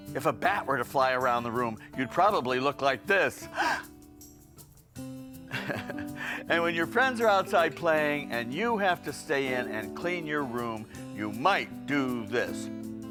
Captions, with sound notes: If a bat were to fly around the room, you'd probably look like this. (gasps) (laughs) And when your friends are outside playing, and you have to stay in and clean your room, you might do this.